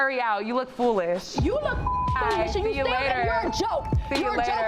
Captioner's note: beep